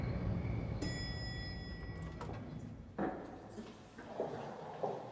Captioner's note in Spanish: timbre del elevador